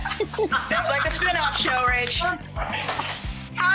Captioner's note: Rachel laughing